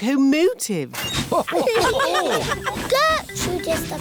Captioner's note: laughter